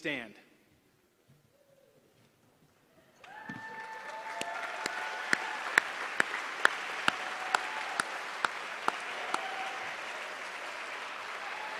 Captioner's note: applause